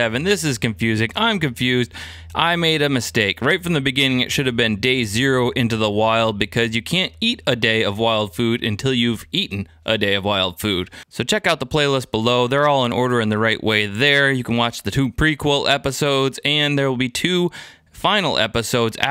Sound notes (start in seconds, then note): none